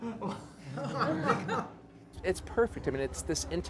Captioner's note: crowd laughing